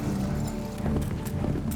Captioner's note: hoofbeats